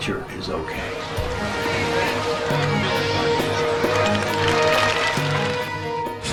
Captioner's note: splashing and cheering